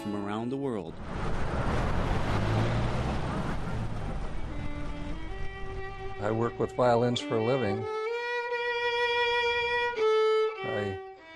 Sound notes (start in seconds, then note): 0.8 road noise; 4.2 violin playing